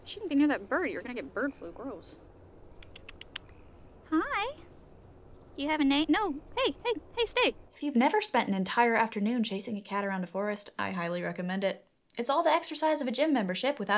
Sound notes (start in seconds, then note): 2.8 clicks tongue at cat